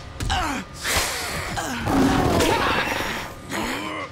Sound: grunting; growling; grunting

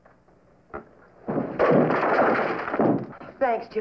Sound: crash

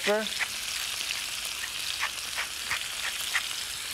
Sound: sizzling

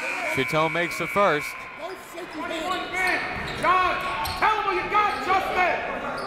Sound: buzzer

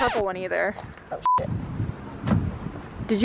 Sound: beep

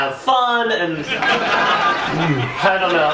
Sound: audience laughing

